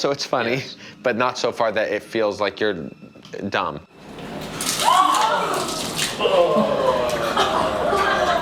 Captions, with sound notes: it's funny but not so far that it feels like you're dumb. (vomit splashing) - Oh!